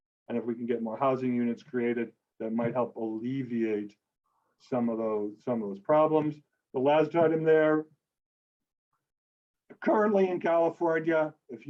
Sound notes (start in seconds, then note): none